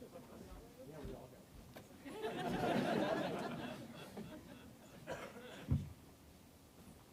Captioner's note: audience laughing